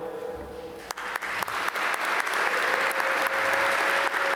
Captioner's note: applause